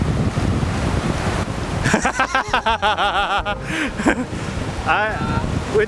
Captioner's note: laughter